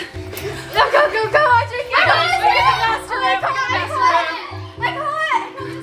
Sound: kids squealing

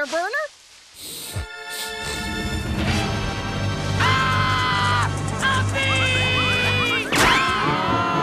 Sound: sniffing

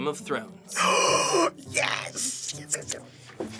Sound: deep gasp

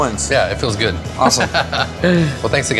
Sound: laughs

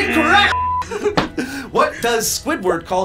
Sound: buzzer blares; beep

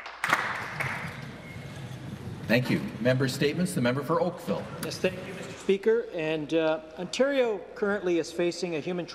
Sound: applause

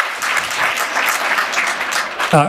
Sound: applause

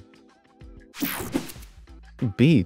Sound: screen whooshing

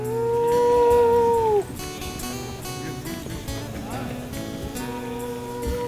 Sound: gentle guitar music; men hoot and chatter

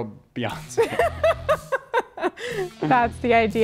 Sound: both laughing

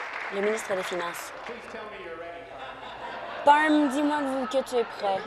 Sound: applause

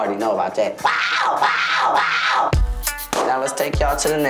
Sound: yelling

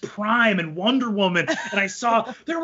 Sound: laughs

